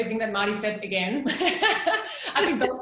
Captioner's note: laughing